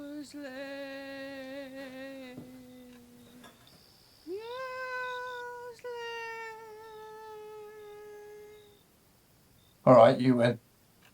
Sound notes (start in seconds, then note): none